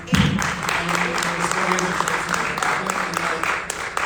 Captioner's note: audience applauding